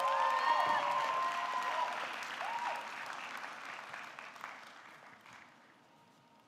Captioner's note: audience cheering; audience clapping